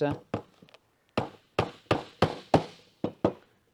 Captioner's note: hammering